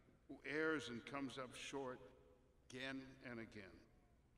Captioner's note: none